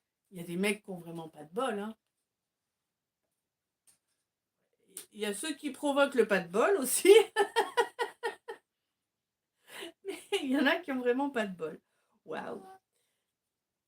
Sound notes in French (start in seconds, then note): 7.1 rires